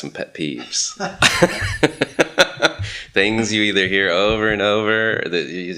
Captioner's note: laughs